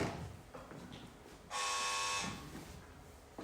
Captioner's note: door bell buzzes